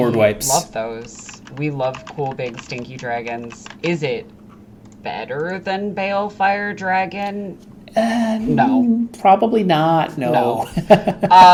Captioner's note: laughing